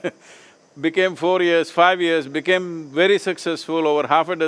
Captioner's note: laughs